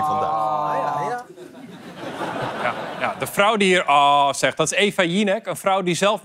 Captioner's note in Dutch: gelach